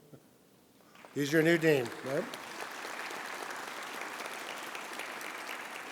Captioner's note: audience applauding